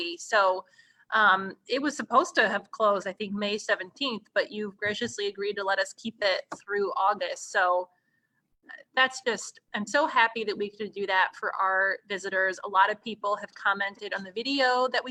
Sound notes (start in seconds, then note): none